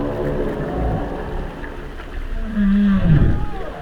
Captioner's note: somber music; whales groaning